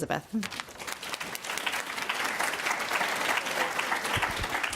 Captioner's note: audience applauds